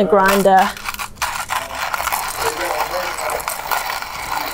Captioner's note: grinding coffee